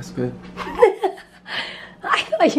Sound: laughs

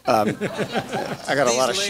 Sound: audience laughs

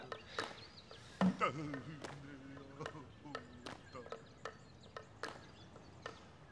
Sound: non-english speech

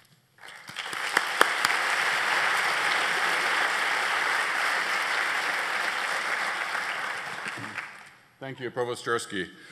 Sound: applause

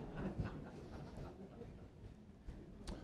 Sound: laughter

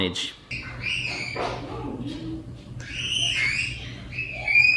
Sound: children screaming

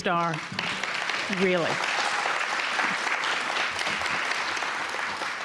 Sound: audience applauding

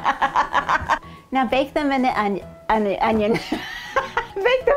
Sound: laughing; laughing

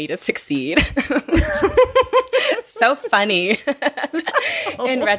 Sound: laughing

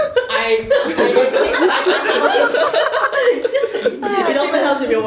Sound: laughter

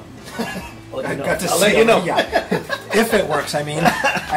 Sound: laughs

